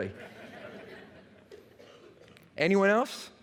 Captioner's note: laughter